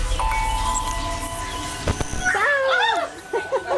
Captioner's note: laughter